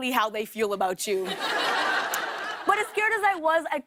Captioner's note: laughter